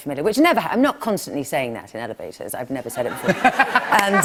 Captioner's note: laughter